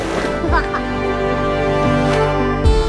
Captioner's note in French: Rire d’enfant